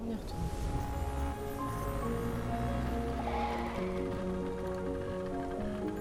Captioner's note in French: vrombissement du moteur; crissement de pneus